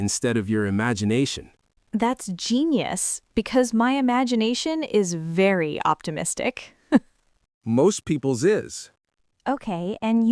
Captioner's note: laughs